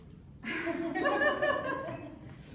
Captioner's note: laughter